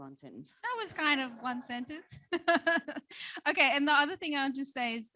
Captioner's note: laughs